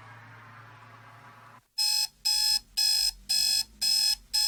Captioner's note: alarm buzzing